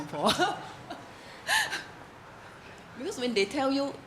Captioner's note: laughs